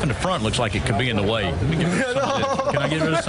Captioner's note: laughter